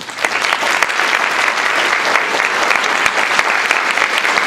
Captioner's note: applause